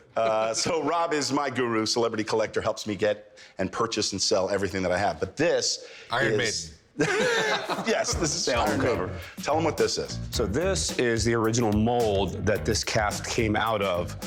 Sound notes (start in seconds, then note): 6.9 all laugh